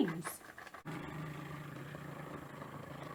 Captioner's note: purrs like a plane